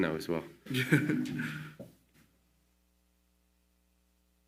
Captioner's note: laughing